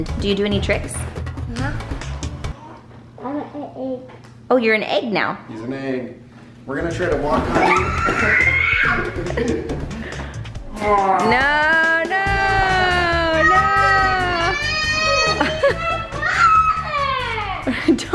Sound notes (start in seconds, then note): 7.5 playful screams; 9.0 laughter; 12.7 laughing